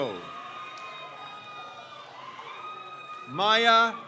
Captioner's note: crowd cheers